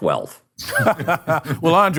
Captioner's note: laughter